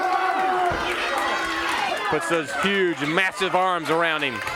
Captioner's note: crowd cheering